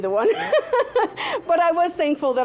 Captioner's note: laughing